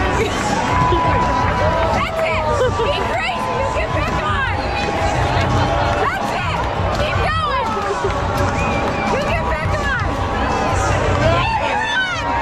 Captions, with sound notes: That's it, keep it crazy, you'll get back on! That's it, keep going, you'll get back on. (crowd cheering) There you are.